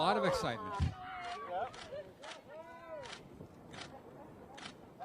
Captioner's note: cameras clicking